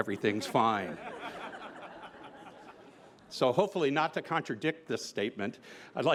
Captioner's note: laughter